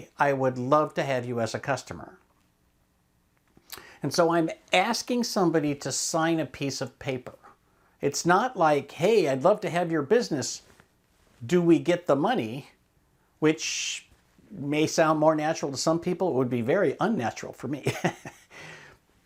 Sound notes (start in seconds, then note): 17.8 giggles